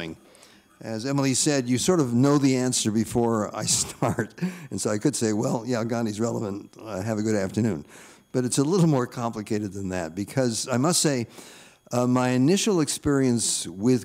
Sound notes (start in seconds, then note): 3.6 chuckling